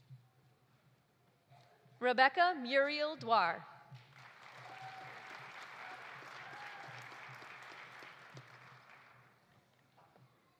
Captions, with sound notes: Rebbeca Muriel Duar. (audience applauding) (audience cheering)